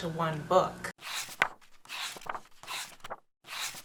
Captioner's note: paegs turning